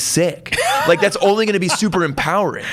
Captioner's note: laughs